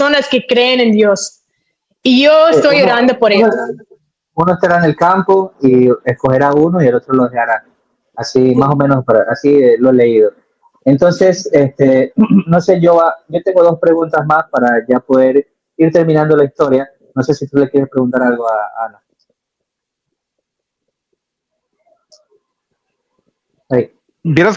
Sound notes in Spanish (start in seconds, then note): 12.2 carraspeo